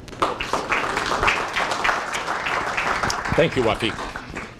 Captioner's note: applause